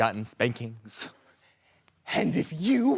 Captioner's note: heavy breathing